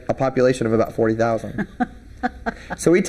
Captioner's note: laughing